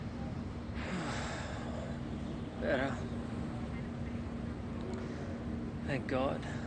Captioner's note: exhales loudly